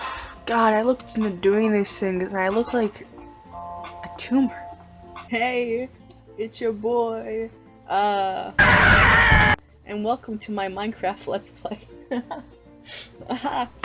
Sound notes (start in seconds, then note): 8.6 soldier Screaming